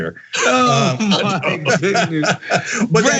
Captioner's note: laugh